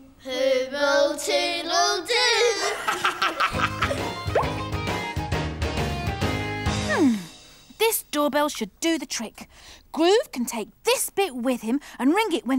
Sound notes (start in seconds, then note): 2.5 laughing; 3.8 rock music